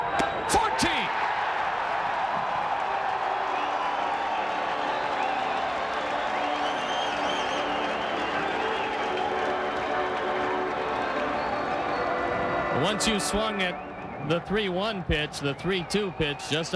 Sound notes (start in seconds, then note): 1.6 crowd cheering